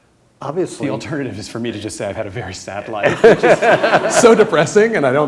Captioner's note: laughter